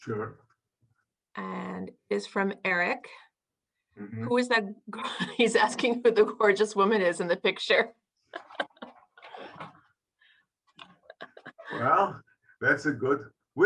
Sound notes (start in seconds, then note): 8.3 laughing